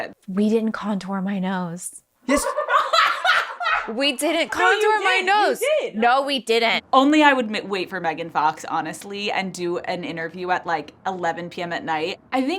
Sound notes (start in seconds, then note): 2.3 crew and Alex laughing